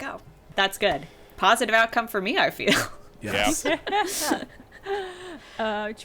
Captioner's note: laughing